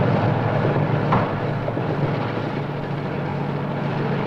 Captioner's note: mechanical rumbling